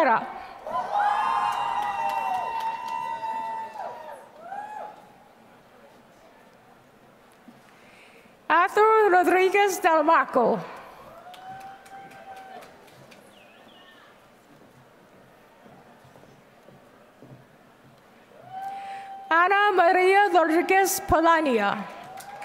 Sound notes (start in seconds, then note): 1.2 applause; 11.0 applause; 21.6 applause